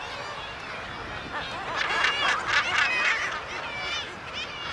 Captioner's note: birds squawking